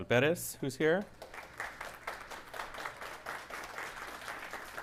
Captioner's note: audience applauding